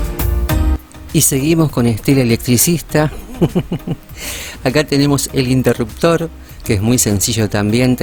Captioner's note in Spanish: risas